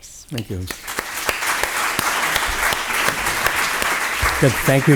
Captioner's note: applause